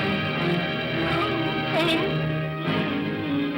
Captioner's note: suspenseful music; Scrooge cries out; Scrooge moans; ominous upbeat music